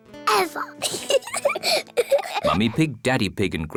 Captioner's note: both giggle